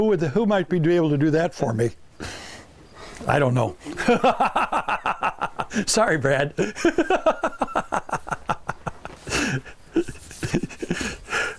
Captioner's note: laughing